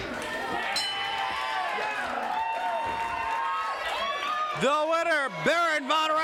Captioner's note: crowd cheers; bell rings